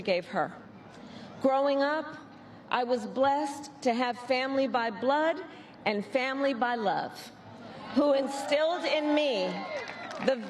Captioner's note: cheers and applause